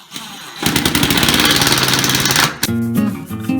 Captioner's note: drilling; intro Music